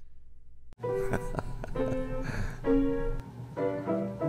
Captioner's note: laughter; upbeat music